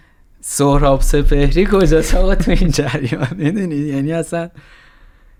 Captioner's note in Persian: خنده